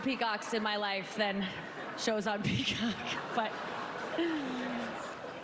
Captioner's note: laughter